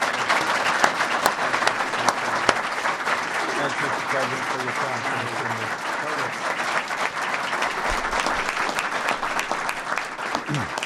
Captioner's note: applause